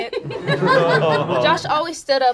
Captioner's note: group laughs